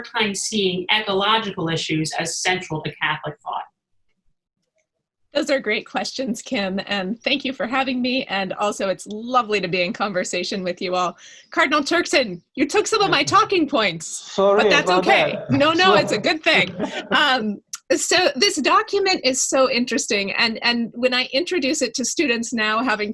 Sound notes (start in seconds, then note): 17.6 laughing